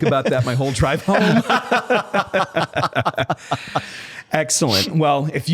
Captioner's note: laughter